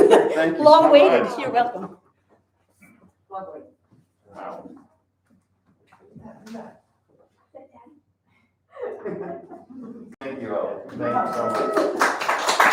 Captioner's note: applause